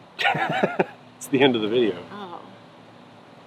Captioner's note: laughing